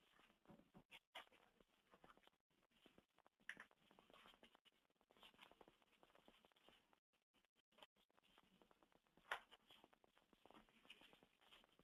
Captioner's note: long pause